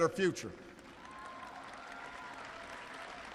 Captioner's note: applause